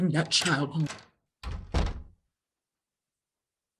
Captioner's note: door closes